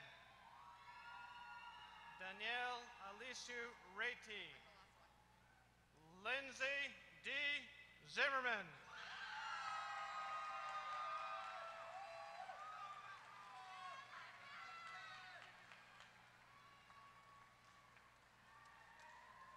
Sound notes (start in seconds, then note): 0.6 applause; 9.4 applause